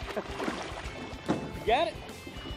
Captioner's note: laughs